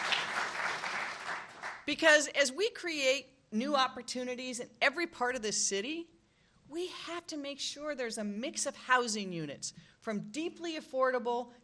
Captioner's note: applause